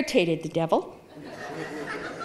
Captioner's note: audience laughing